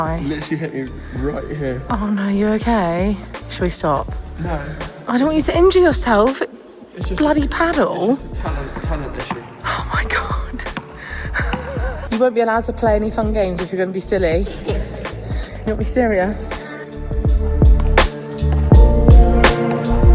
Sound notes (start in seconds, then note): 11.3 laughs; 14.4 laughs; 17.1 chill beats music